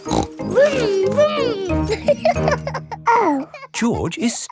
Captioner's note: laughs and snorts; laughing